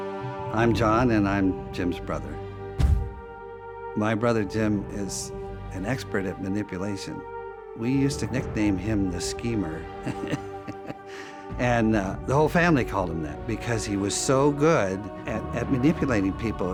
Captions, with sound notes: I'm John and I'm Jim's brother. My brother Jim is an expert at manipulation. We used to nickname him The Schemer. [laughs] And the whole family called him that because he was so good at manipulating people.